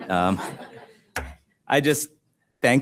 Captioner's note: audience laughs